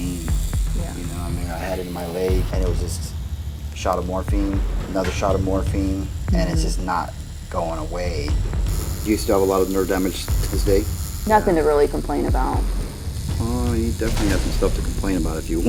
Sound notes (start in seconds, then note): 8.7 buzzing